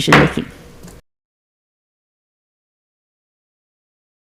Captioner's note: gavel bangs